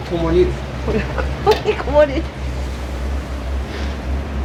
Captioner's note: laughter